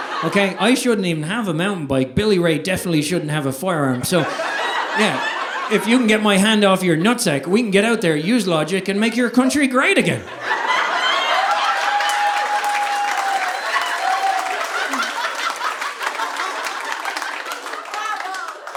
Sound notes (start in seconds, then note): 10.0 audience laughing; 10.6 audience applauding